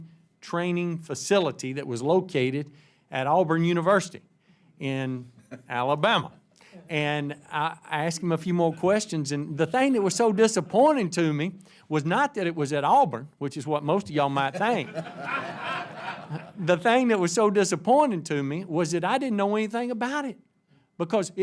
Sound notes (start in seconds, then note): 14.4 laughter